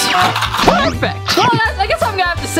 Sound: Tic Tacs shaking

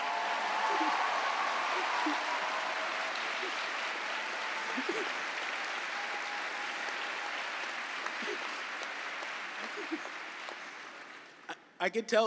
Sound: cheering and applause

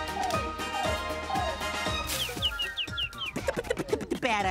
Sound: chirping

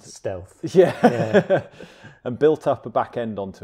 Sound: chuckles

